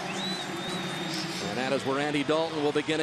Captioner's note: pa announcement